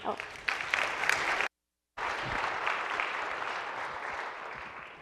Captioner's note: applause